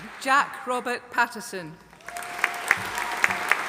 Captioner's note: audience applauding